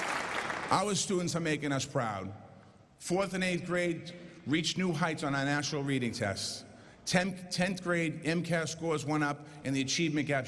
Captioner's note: applause